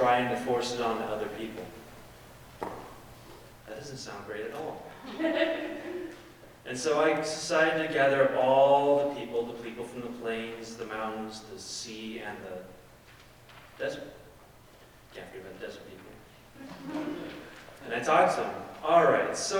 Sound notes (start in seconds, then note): 16.6 audience laughing